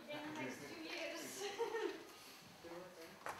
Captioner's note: laughter; laughs